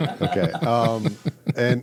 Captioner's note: all laughing